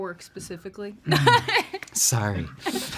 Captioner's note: laughs